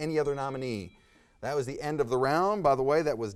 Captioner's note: timer dings